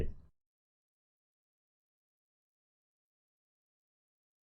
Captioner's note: long silence